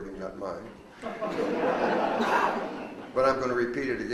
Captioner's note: audience laughs